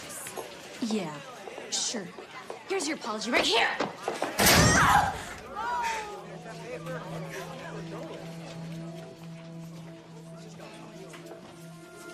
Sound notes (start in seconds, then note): 4.5 screams